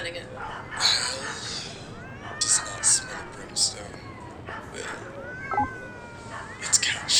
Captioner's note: cat wailing